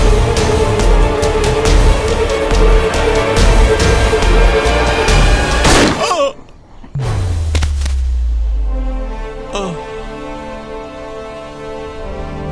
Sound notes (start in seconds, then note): 5.6 gunshot